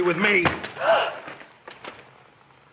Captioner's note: smack!; Beatrice gasps